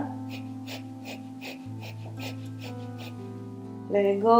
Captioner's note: heavy breathing